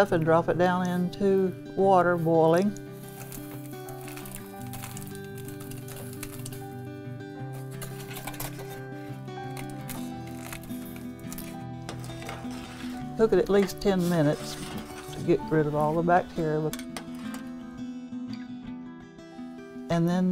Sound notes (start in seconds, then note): 2.9 foil crinkling; 9.5 stirring sounds